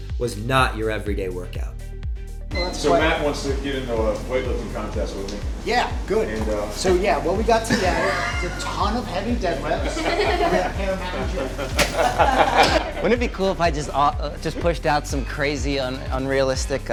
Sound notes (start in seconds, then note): 7.5 laughter